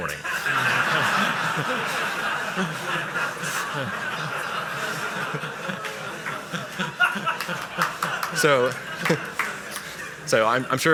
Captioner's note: laughter